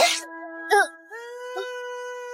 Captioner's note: gasp